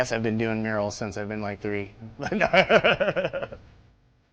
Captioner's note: laughs